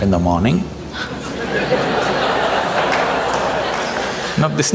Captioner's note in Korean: 웃음